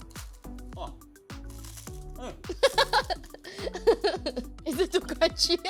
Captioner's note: laughs